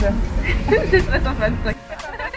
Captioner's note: laughs